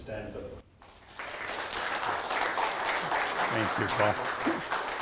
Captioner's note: audience applauding